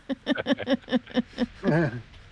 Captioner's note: laughter